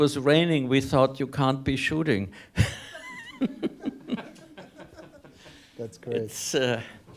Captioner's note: everyone laughs